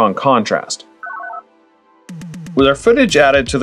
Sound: analog beeps

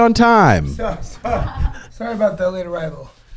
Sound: group laughter

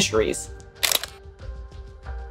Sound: background music; camera click sound effect

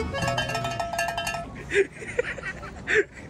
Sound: mythpat laughs

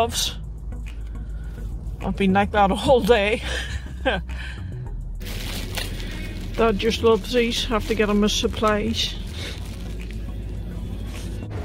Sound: laughs

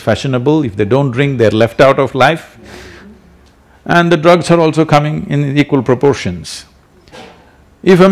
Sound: few laugh

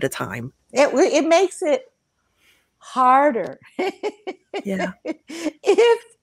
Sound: laughs

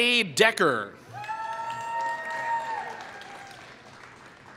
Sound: applause

